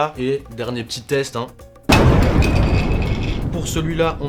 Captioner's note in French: boum